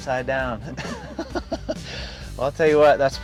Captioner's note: laughs